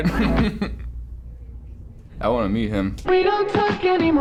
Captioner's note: laughs